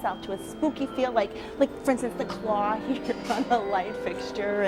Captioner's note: laughs